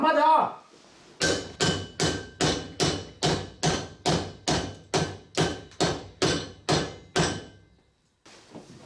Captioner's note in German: lautes Hämmern